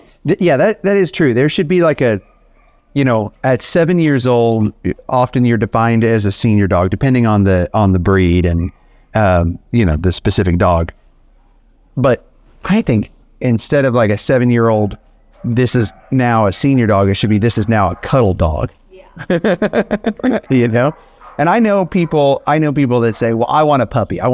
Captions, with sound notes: - Yeah, that that is true, there should be like a, you know, at seven years old, often you're defined as a senior dog depending on the breed and you know, the specific dog. But I think, instead of like a seven-year-old, this is now a senior dog, it should be this is now a cuddle dog. (laughs) You know, and I know people that say, "Well, I want a puppy.